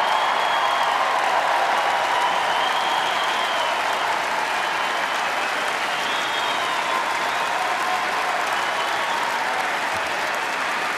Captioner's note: cheers, applause